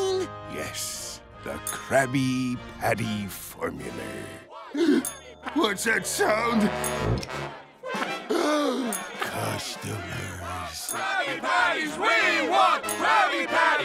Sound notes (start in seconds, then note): 4.8 gasps; 8.3 gasps